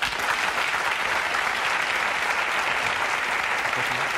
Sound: audience applauding

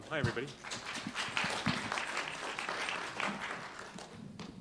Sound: applause

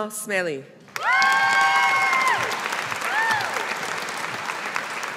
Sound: audience applauding

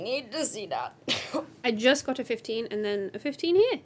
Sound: cough

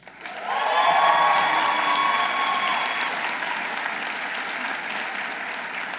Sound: audience applauding; audience cheering

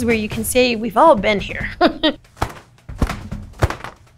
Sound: laughs

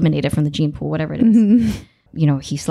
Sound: laughing

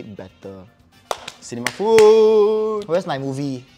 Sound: seal claps

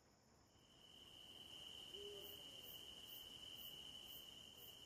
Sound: insects chirping

